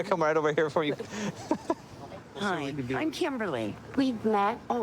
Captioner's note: laughing